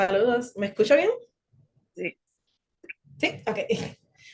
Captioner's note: speaking Spanish